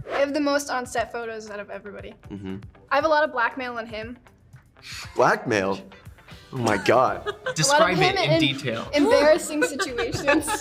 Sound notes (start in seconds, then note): 4.8 inhales; 6.6 laughing